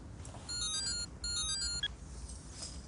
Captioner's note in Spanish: Suena un celular